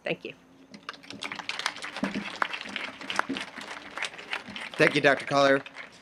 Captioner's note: audience applauding